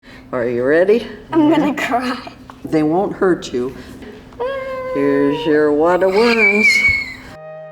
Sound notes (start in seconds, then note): 2.2 laughs; 4.4 squeals; 5.9 child squeals